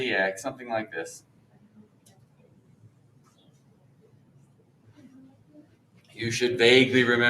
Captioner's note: background conversations